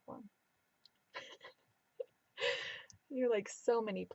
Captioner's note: laughing